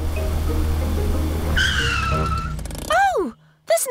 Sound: tires screech

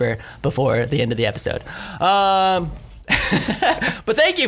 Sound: laughs

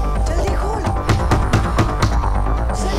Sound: door knocking

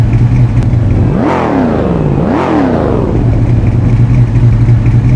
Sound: Tanner revving cars engine

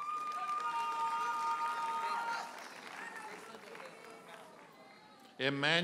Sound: audience hollers and applauds

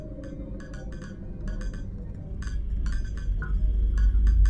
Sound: eerie clinking

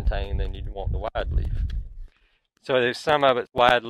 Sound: wind blowing

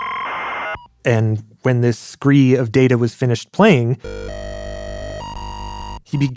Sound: computer game sounds; computer game sounds

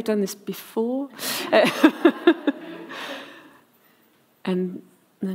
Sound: laughs

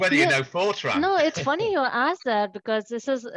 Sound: laughs

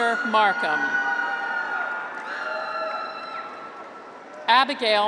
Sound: graduates cheer

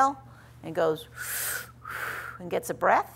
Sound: breathes in and out

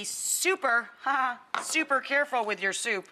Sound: chuckles

